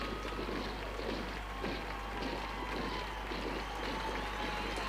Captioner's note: boots thudding